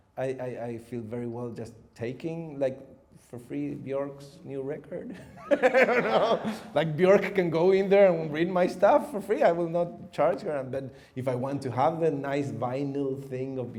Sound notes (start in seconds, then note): 5.2 chuckles